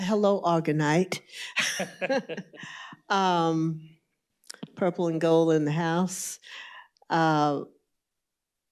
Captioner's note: laughter